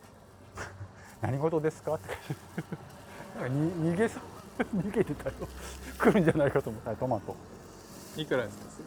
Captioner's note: laugh